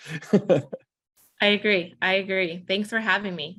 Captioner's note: chuckles